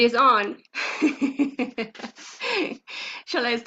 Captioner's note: laughs